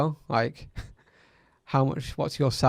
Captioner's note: chuckles